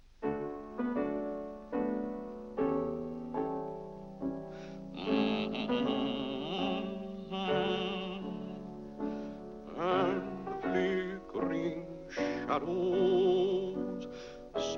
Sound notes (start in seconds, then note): 0.2 piano plays; 4.9 Mr. Day hums a tune; 10.2 singing